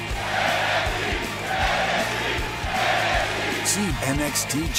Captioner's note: fans chanting